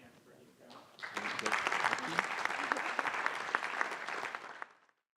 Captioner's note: applause